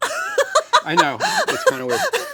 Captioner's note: laughing